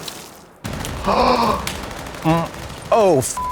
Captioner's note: gun firing; Trixie gasps; beep